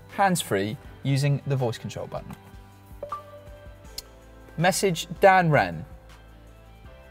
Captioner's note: ding-dong